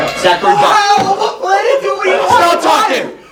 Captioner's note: arguing